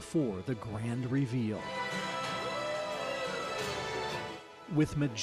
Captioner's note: ooohs and awes